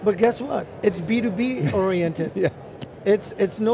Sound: laughs

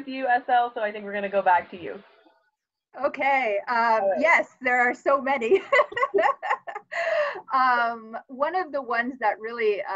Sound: laughs

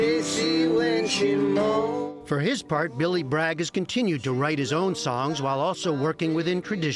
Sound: voice-over

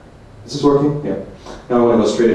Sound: mic test

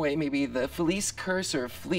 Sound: none

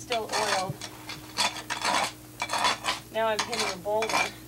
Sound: scraping

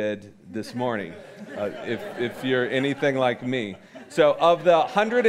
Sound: audience chuckling

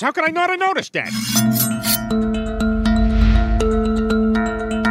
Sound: blades slicing; creepy music; swooshing

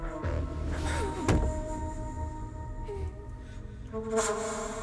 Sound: Maddie whimpering

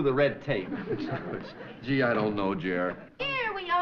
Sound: laughing

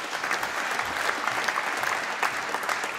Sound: applause

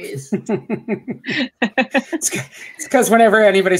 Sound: laughs

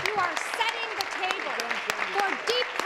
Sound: some Applause

